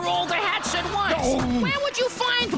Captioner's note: zeppo exclaims